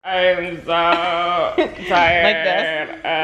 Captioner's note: laughing